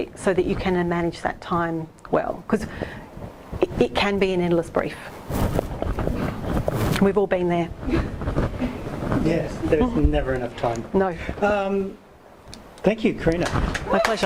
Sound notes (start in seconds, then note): 9.3 voiceover